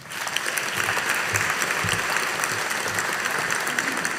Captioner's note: audience applauding